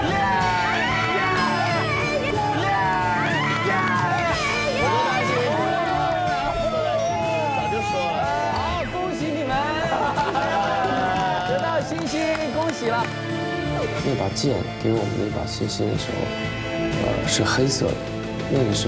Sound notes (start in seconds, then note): 1.9 cheering; 5.5 cheering